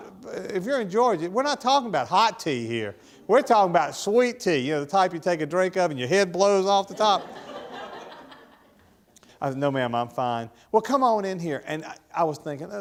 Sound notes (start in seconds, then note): 6.8 audience laughing